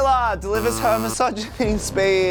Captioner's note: buzzing